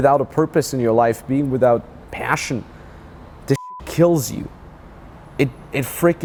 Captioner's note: beep